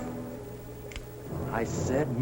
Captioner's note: gun cocks